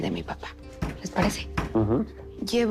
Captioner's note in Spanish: Toques en la puerta